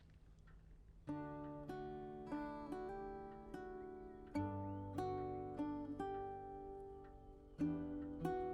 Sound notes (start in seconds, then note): 1.0 gentle music; 1.9 clock ticking